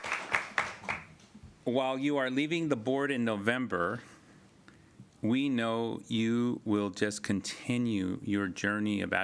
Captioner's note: appuse